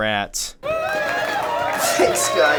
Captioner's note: cheering